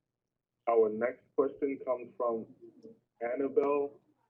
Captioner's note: voiceover